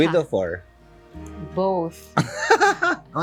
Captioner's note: laughs